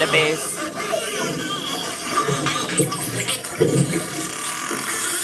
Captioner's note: dolphins squeaking